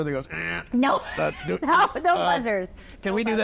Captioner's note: laughs; imitates buzzer